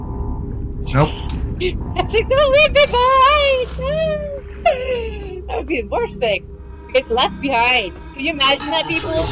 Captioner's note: laughter